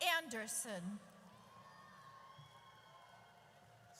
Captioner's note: audience cheers